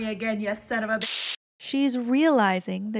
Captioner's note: static